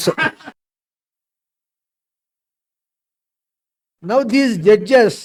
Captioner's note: laughs